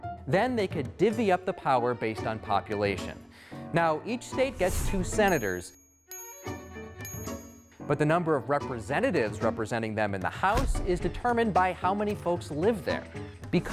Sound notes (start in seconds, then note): 0.0 light music; 5.1 bell dinging